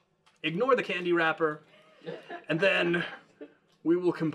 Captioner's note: all Laughing